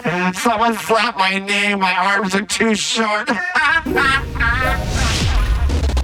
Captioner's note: laughter; laughter